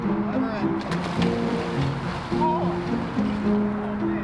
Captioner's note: water splashing